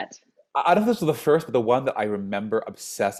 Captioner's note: stammers